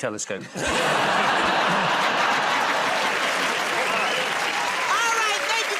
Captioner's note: laughter